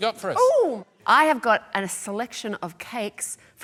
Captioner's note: none